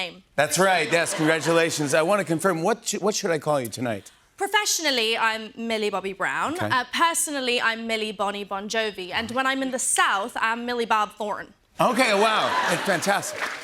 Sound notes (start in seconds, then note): 10.4 southern accent